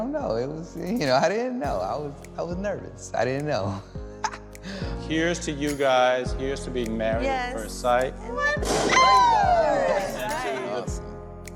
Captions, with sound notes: It was-- you know, I didn't know. I was--I was nervous. I didn't know. [laughs] - Here's to you guys. Here's to being married at first sight. [cheers] - That's really awesome.